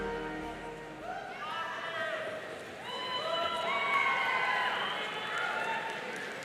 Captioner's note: audience cheering and applauding